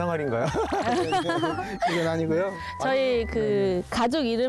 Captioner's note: laugh